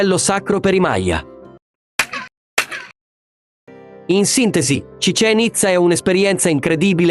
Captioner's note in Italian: effetto sonoro